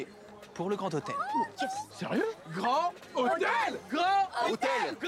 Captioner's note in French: en choeur